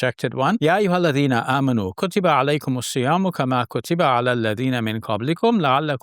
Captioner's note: speaking in foreign language